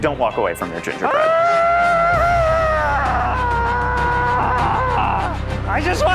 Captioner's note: primal screaming